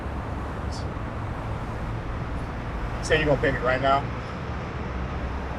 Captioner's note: scoffs